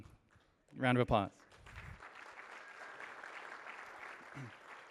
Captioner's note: applause